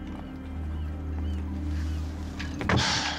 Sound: sighing heavily

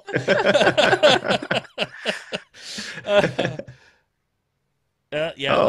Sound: laughter

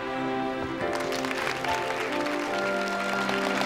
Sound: applause

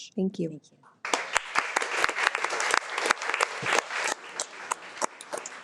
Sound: audience applauds

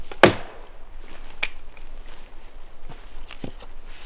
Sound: wood smacking

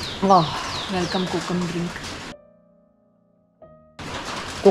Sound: audio poor due to loud rain

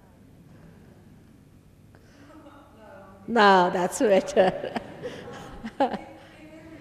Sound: shri mataji laughs

